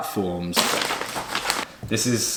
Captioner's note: paper crinkling